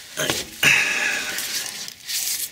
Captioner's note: hhh